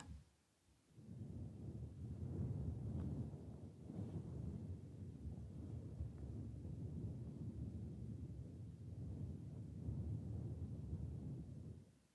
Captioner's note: mic brushing